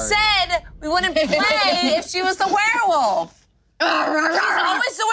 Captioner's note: groaning